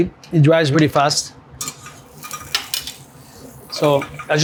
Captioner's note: butter sizzling